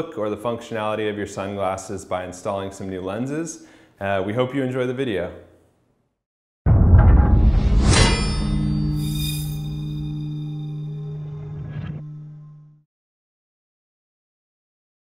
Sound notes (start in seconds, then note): 7.8 sword slashing